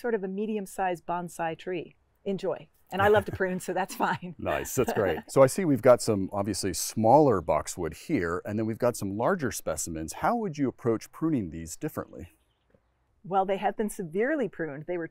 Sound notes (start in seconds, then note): 4.4 chuckles